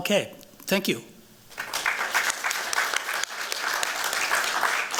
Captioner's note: applause